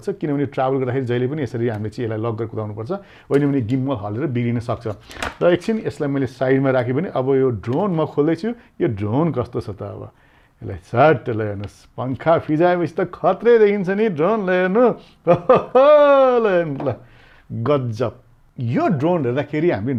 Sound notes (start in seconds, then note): 15.2 laughs